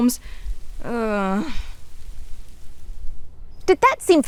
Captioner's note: speaker sighing